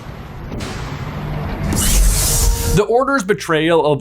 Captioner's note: thunder crashes